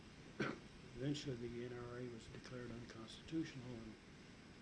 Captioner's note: coughs